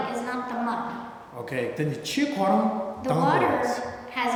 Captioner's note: speaking tibetan